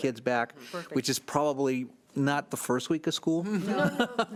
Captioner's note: laughs